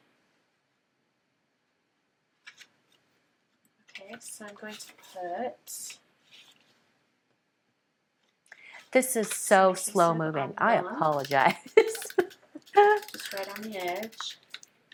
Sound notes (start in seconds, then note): 11.2 laughs